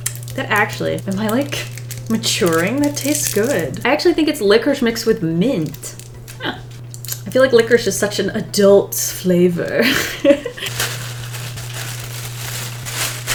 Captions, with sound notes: That actually - Am I like, maturing? That tastes good. I actually think it's licorice mixed with mint I feel like licorice is such an adult flavor. [Laughs] [Tissue paper rustling]